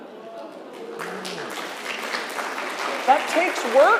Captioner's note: crowd clapping